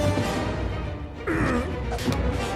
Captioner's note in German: Grunzen